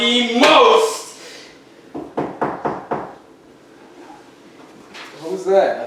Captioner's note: knocking